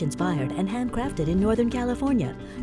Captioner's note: none